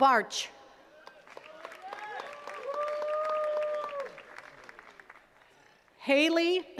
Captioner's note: attendees cheering and clapping